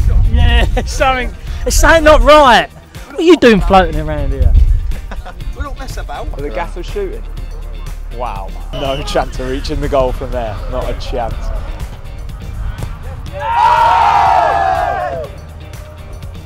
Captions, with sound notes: There's something not right - what are you doing floating around here? We don't mess about. Is the gaffer shooting? Wow, no chance of reaching the goal from there, not a chance. (Cheering)